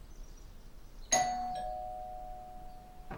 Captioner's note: doorbell chimes